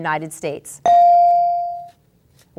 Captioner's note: ding